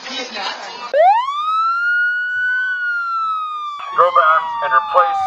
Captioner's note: police siren blaring